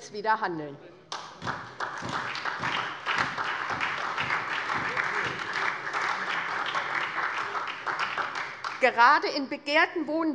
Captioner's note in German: Beifall SPD und vereinzelt DIE LINKE